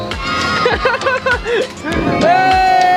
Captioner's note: laughs